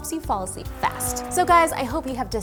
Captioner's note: car engine revving